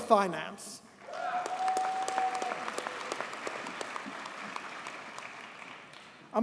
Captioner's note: audience cheers and applauds